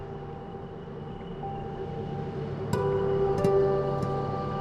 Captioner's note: distant traffic; background music